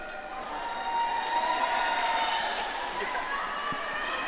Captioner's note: audience cheering